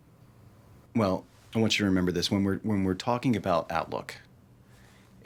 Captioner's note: none